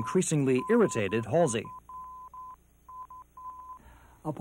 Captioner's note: beeps